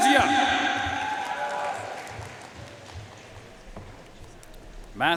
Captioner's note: audience cheering and applauding